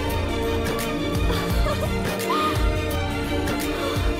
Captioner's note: Laughs